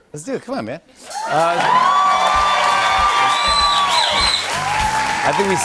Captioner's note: cheers and applause